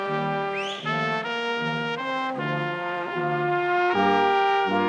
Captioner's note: person whistling